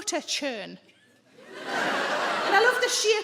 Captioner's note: audience laughs